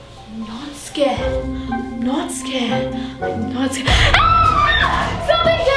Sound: screams

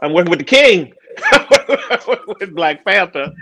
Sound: laughs loudly

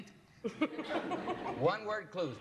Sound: laughter

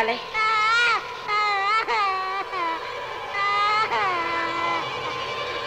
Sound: boy crying

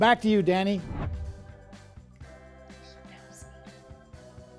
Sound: whispers

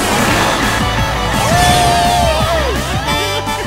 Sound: cheering; laughing

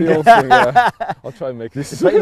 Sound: all laugh

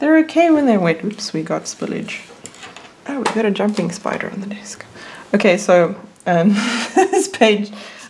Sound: laughs

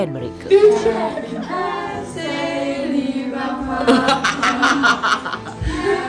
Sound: laugh

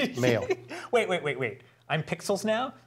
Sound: laugh

